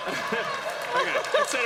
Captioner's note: laughter